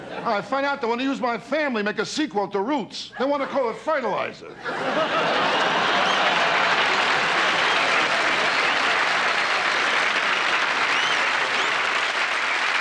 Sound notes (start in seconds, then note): 4.5 audience laughter; 9.6 audience applause